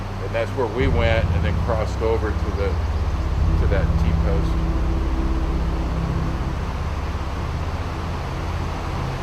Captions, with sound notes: And that's where we went and then crossed over to the... to that t-post. [River gushing]